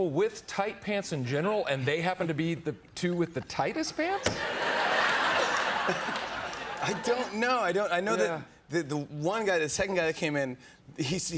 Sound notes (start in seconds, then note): 4.2 laughter